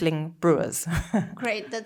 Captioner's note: laughing